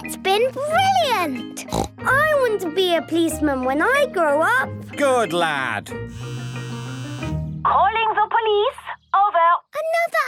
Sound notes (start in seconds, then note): 1.6 snort; 6.2 phone ringing